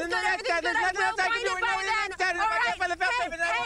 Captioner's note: overlapping shouting